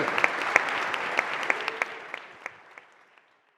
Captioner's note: applause